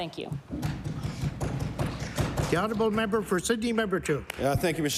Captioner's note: some Applause